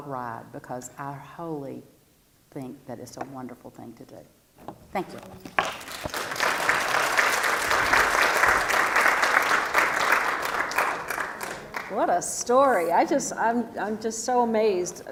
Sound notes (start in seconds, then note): 5.5 applause